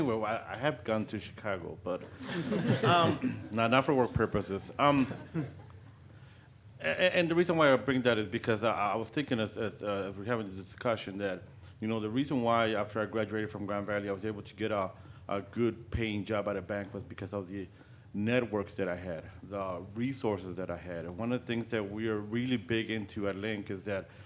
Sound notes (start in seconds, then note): 2.1 audience laughing